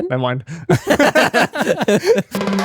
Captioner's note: laughing